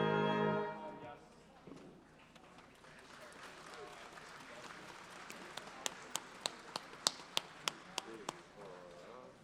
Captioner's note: applause